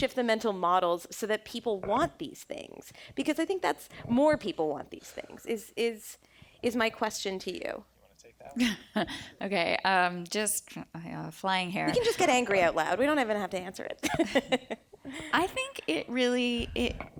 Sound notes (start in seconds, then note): 14.0 laughter